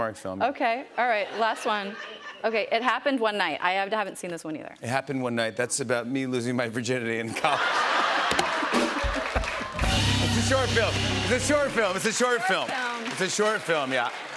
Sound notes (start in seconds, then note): 7.3 laughter; 7.9 rimshot